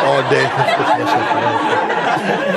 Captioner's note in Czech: smích